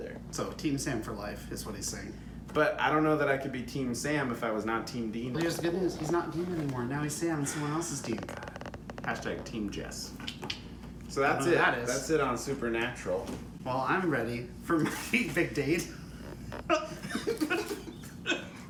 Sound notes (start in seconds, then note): 10.2 hashtag mouth-clicks; 16.4 laughs